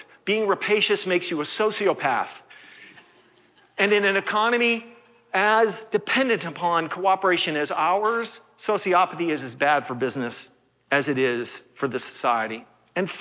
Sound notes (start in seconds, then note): 2.8 laughter